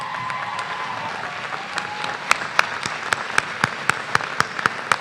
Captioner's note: applause